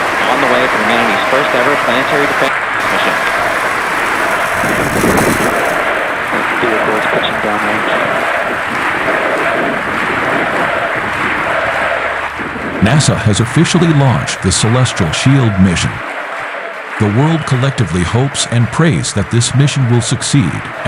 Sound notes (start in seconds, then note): 3.1 crowds cheering; 4.2 crowds chanting USA!